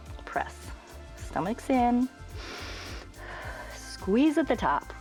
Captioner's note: inhales and exhales